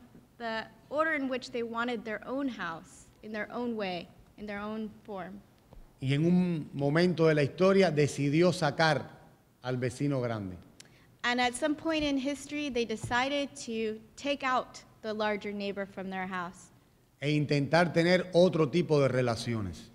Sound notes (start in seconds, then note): 5.2 speaking in Spanish; 16.6 speaking in Spanish